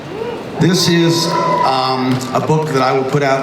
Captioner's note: crowd cheers